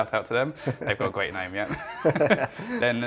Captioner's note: laughing